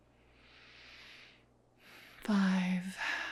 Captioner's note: instructor inhales and exhales